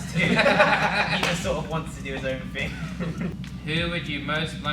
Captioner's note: laughter